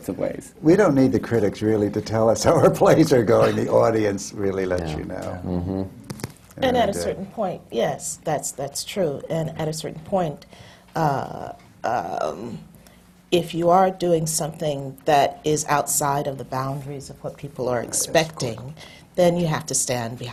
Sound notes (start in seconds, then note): 3.4 laughs